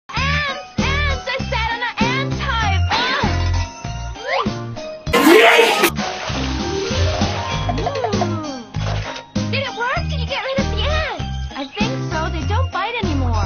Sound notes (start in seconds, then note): 5.1 YEET Sound